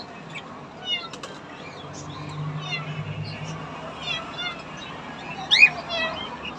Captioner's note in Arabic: مواء مواء